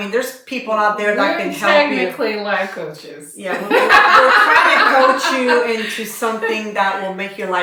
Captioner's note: laughter